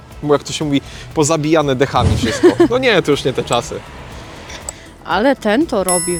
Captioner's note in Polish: śmiech